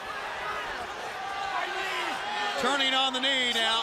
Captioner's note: crowd chatter